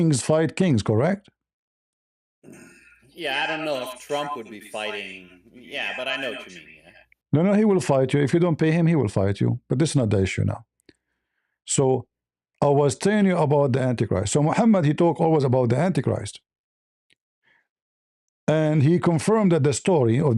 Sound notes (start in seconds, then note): 2.4 berdehem